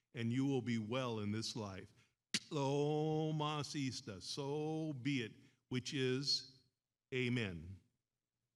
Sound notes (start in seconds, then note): 2.6 speaks in foreign language